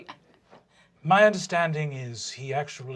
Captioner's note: soft, accented voice